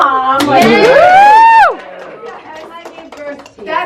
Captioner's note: applause